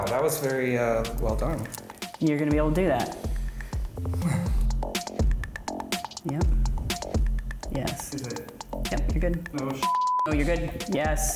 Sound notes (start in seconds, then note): 4.0 sighs; 9.8 beep